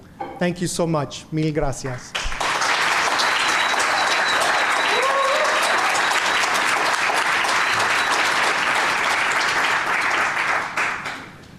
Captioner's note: applause